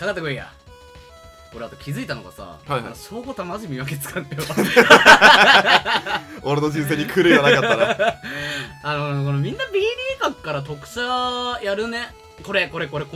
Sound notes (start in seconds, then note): 4.4 laugh